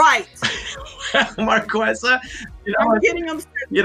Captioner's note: laughs